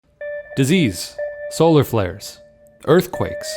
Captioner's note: voiceover